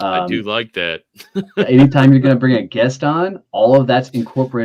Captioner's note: chuckling